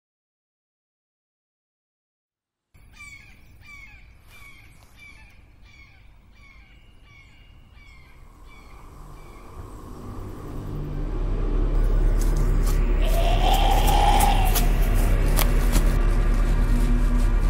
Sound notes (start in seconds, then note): 2.5 birds, Crickets in background; 12.0 Zombie growls as footsteps run